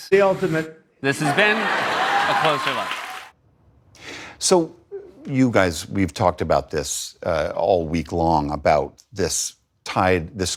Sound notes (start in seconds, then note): 1.3 laughter; 3.0 cheering